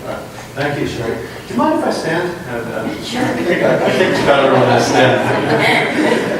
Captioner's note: laughter